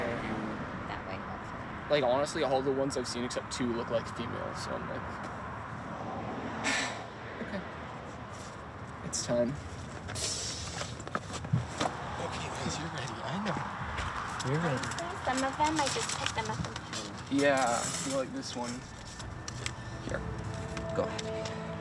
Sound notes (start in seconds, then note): 6.6 sighs; 21.6 gentle music